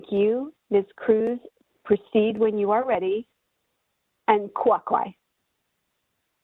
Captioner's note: speaking in native language